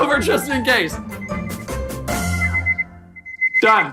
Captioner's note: timer beeping